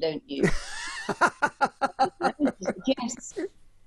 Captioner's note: laughs